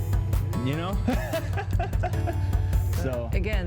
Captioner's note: laughs